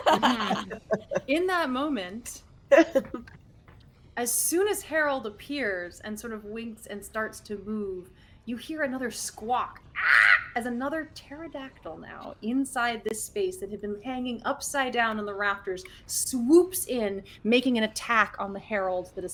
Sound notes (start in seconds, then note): 0.0 both laugh; 9.9 squawks